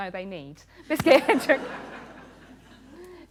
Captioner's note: laughter